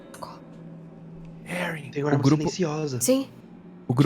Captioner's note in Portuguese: sussurra